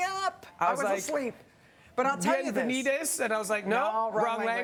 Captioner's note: speaking Italian